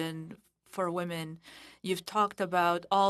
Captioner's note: speaking French